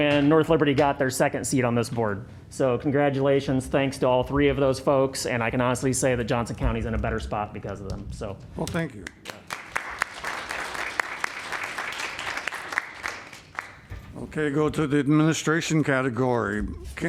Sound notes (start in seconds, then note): 12.0 applause